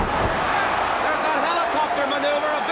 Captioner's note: crowd cheering